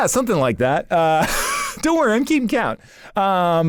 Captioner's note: laughs